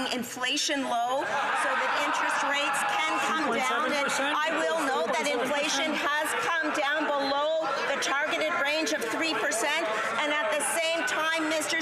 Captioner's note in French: voix de l'interprète